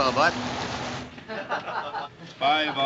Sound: laughter

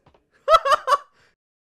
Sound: KRILLIN laughs

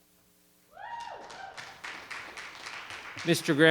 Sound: audience applauding

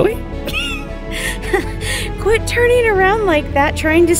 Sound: chuckles

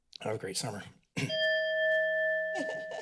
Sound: timer dings; laughter

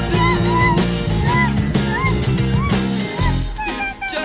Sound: hamster in physical pain.mp3

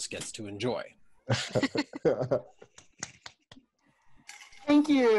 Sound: laughter and applause

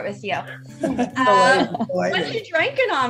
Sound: laughing

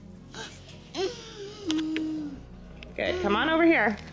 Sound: gasping

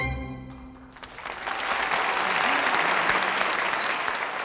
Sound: audience applauding

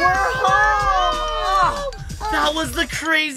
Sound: cheering

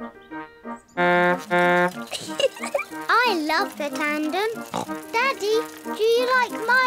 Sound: toots horn and giggles; snorts

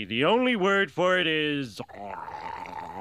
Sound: Homer Drooling

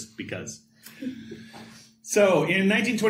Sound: laughter

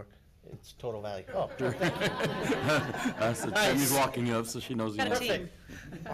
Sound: congregation laughter

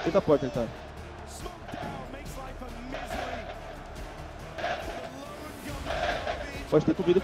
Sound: crowd chanting

